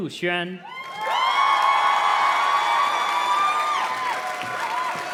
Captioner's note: audience cheers and claps